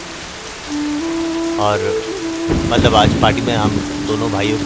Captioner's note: Clouds thundering